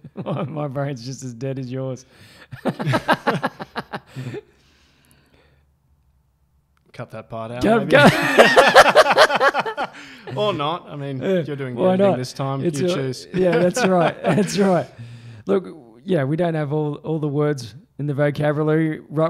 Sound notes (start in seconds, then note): 2.7 laughing; 7.7 laughing loudly